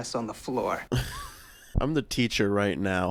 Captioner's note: laughs